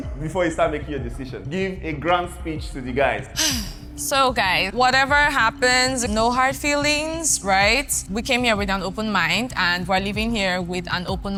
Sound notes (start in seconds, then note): 3.4 sighs